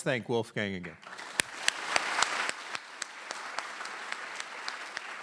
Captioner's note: applause